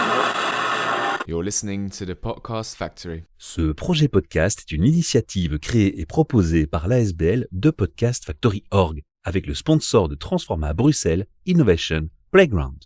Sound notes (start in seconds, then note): 0.0 old radio mode: static